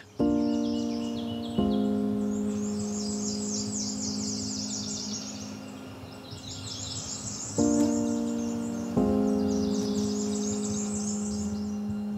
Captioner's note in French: chants d'oiseaux